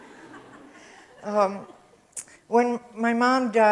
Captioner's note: audience laughs